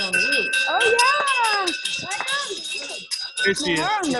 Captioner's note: bells chime